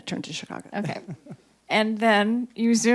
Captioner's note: chuckles